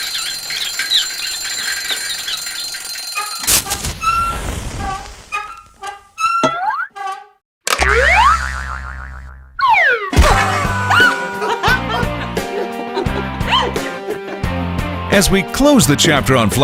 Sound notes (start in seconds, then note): 0.0 ringer sounds; 0.0 rolling sound; 0.0 squeaking; 4.4 bouncing sound effect; 4.4 creaking; 8.4 laughter